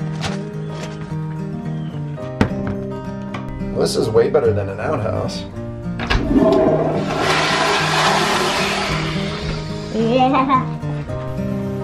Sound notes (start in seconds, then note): 0.0 gentle country music; 6.0 flushing